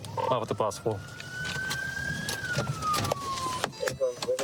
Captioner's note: sirens blaring